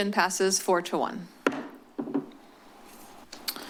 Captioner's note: gavel tap